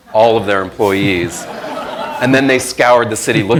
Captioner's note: crowd laughing